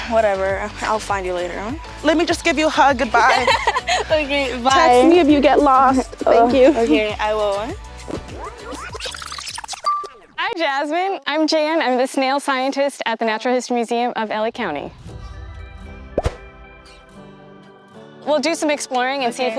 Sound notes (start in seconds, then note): 3.1 laughs; 8.4 tape whirls fast-forward; 15.3 bright music